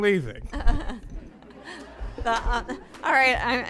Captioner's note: laughter